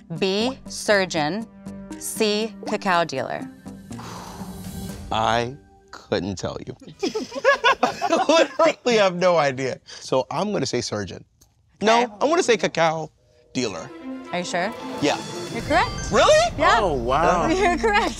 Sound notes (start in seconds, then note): 6.8 group laughs; 16.1 twinkling